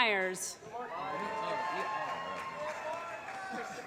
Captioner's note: applause